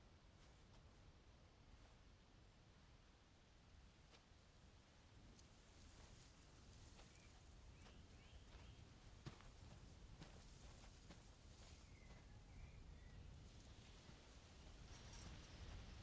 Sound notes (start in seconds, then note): none